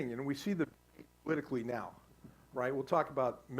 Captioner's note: static